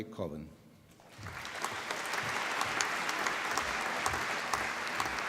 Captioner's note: applause